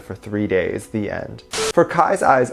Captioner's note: beep